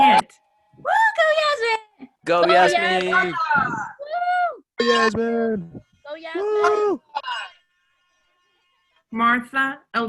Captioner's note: cheering